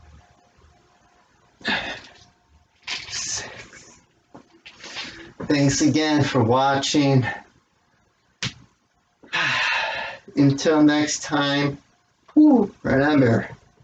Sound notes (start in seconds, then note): 1.7 grunts; 5.7 sighs